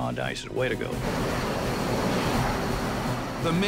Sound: plane roaring

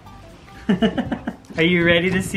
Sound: chuckles

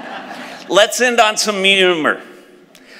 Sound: laughs

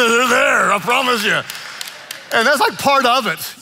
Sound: congregation laughing; laughing

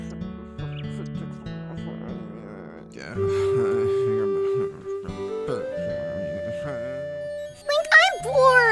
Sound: LINK grumbling to themselves

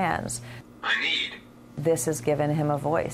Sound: robotic voice

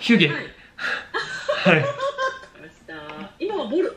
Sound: laughing

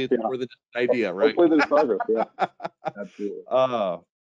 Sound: laughing

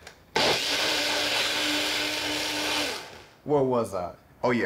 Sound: blender buzzing

